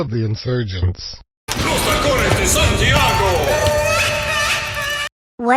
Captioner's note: footsteps